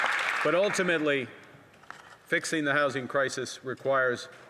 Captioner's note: applause